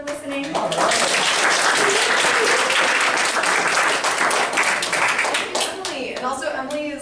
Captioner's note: applause